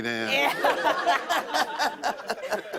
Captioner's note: laughter